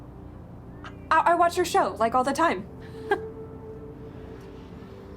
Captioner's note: chuckles